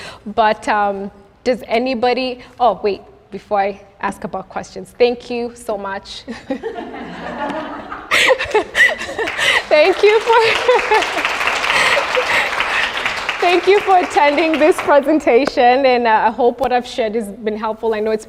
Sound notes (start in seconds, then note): 6.3 laughs; 8.4 laughs And Applause